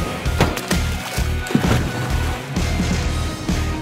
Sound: water splooshing; upbeat rock music

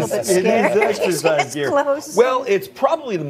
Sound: laughs

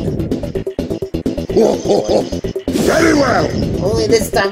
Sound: laugh scoffs

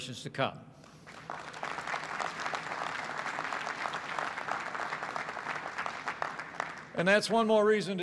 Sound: applause

